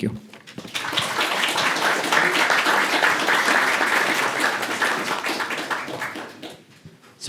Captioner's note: applause